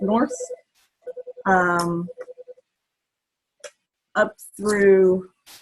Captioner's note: phone rings